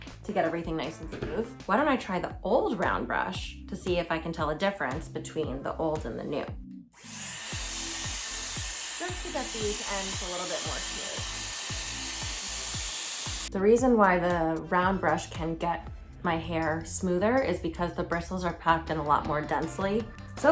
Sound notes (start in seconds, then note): 7.0 brush whirring